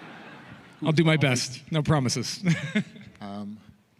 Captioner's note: laughter